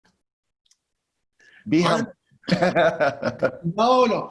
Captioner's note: laughs